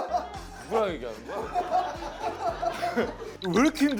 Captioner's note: thonking